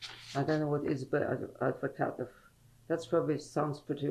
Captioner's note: non-english